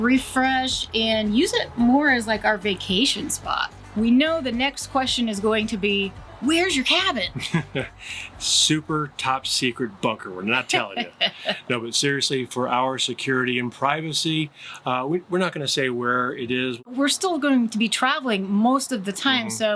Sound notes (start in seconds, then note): 7.3 light laughter